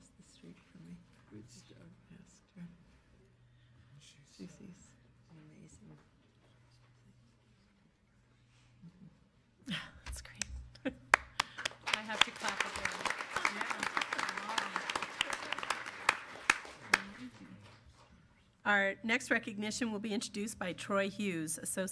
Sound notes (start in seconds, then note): 11.1 applause